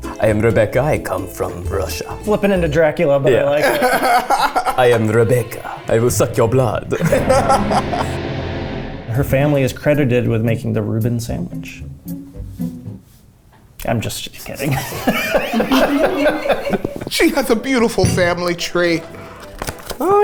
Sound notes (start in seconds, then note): 3.6 laughs; 8.1 eerie music; 14.6 laughs